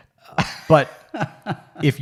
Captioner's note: laughs